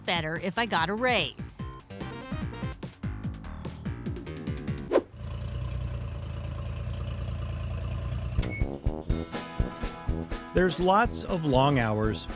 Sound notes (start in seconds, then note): 1.9 upbeat bouncy music; 4.8 air whooshing; 5.0 truck engine rumbling; 8.6 upbeat whimsical music